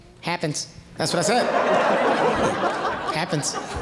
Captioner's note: audience laughing